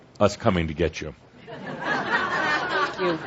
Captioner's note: laughter